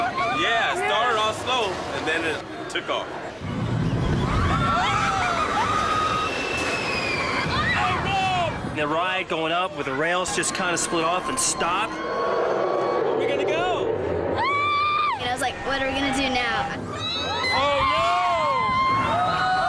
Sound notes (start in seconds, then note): 4.2 screams; 12.4 growls; 14.3 scream; 16.9 screams